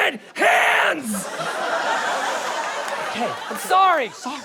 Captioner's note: shushing